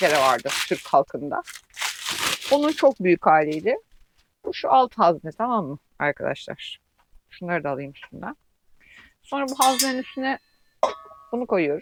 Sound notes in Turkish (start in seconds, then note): none